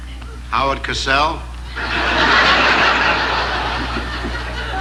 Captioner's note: audience laughing